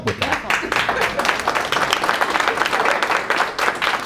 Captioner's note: applause